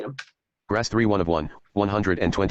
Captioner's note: computer Voice